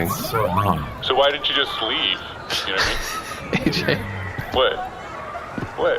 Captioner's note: matter-of-factly